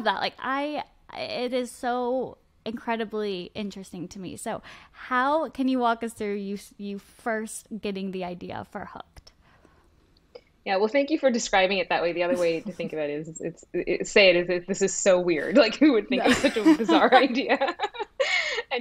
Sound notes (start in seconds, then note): 16.1 laughs; 16.2 both laughing